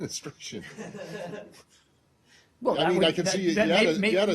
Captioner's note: laughter